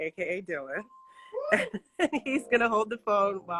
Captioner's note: laughs